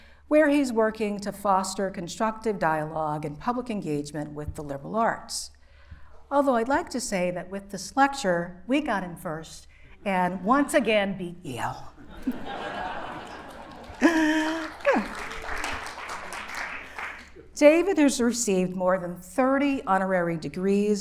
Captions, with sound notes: where he's working to foster constructive dialogue and public engagement with the liberal arts. Although I'd like to say that with this lecture, we got him first. And once again, beat Yale. [laughter] [applause] - David has received more than 30 honorary degrees